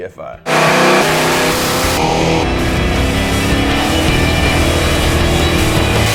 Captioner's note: intense rock music; engines revving